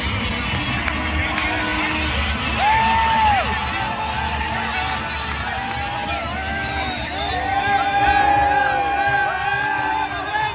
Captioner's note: cheering